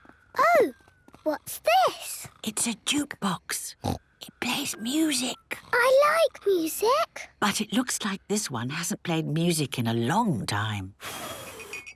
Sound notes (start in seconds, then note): 2.5 whispering; 11.2 blows